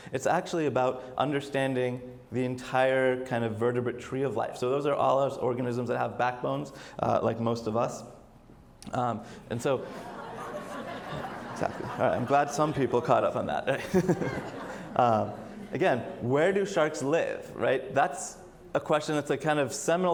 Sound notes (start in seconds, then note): 9.8 audience laughs; 15.1 laughs